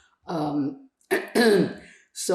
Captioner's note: clears throat